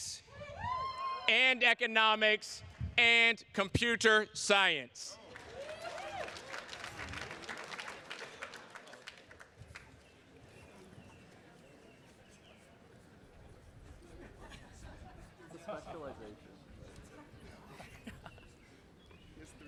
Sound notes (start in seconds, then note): 1.4 attendee cheering; 5.2 attendees cheers and claps; 14.9 attendees chattering